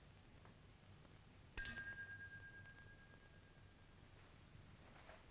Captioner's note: bell dinging